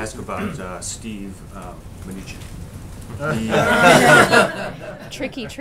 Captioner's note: laughter